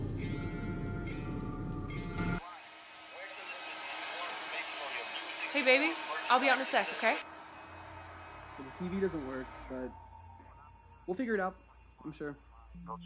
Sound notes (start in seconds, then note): 2.4 air dryer humming